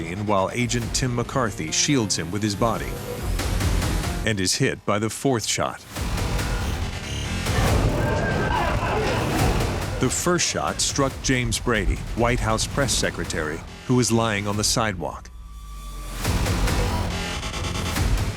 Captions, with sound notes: while agent Tim McCarthy shields him with his body and is hit by the fourth shot. [shot firing] The first shot struck James Brady, White House press secretary who is lying on the sidewalk.